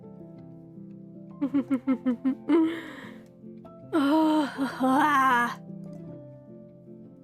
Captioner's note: ROSE giggles